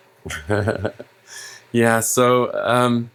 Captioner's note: laughing